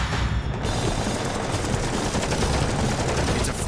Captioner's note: shooting